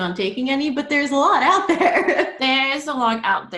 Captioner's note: laughs